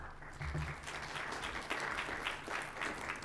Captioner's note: applause